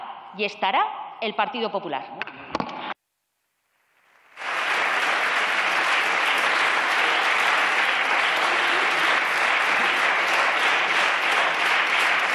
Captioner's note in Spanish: Fuertes aplausos